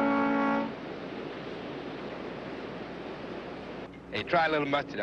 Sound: water spluttering; wind whooshing

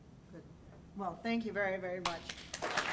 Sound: voiceover; applause

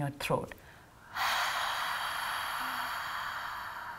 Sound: exhaling

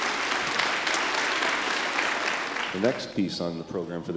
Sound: applause

